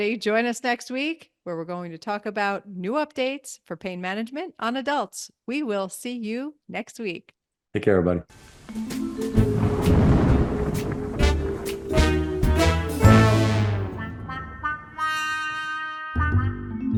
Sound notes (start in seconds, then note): 8.7 playful, mysterious music; 9.1 thunder rumbling